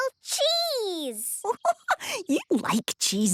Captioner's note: giggling